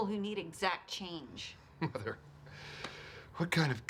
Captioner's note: chuckles